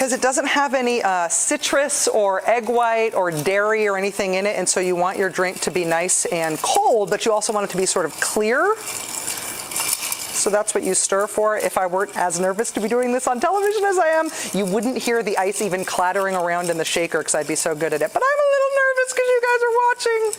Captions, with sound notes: because it doesn't have any citrus or egg white or dairy or anything in it. And so you want your drink to be nice and cold, but you also want it to be sort of clear. (ice cubes rattle) So that's what you stir for. If I weren't as nervous to be doing this on television as I am, you wouldn't hear the ice even clattering around in the shaker, 'cause I'd be so good at it. But I'm a little nervous, 'cause you guys are watching.